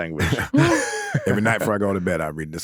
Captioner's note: all laughing